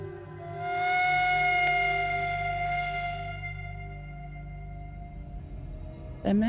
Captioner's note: steam whistle